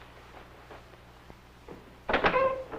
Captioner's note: door opens